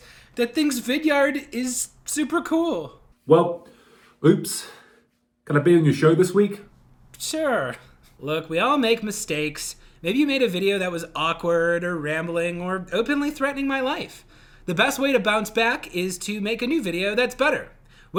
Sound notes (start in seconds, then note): none